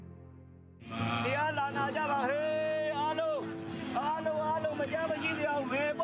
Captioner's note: speaking foreign language